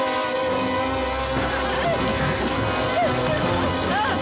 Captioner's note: whimpering